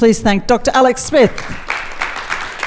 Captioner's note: applause